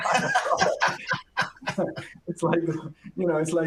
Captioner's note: laughing